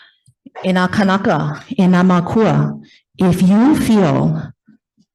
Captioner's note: speaks in foreign language